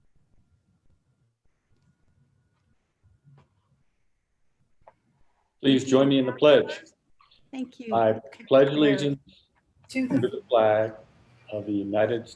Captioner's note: moment of silence